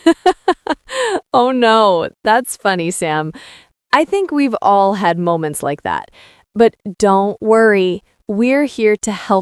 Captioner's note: laughing